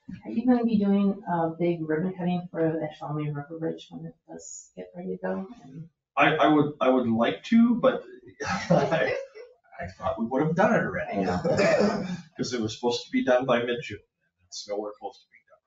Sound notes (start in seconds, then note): 8.2 chuckles; 9.8 people chuckle